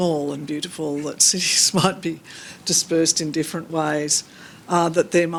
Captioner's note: chuckles